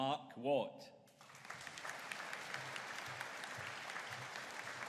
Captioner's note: audience applauding